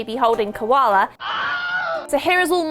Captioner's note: Wilhelm scream